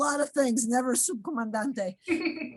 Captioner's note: speaks in foreign language